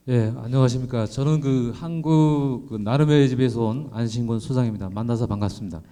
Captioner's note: speaking in foreign language